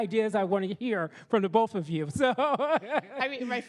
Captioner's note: laughs